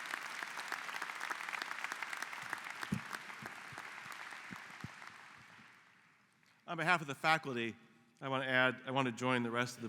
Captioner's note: applause